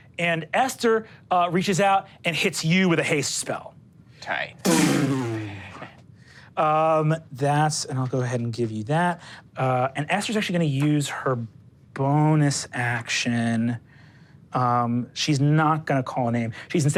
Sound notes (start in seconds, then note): 4.7 whooshing